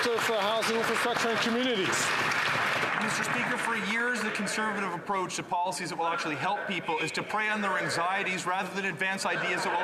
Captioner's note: some Applause